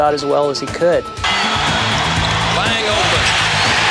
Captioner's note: buzzer rings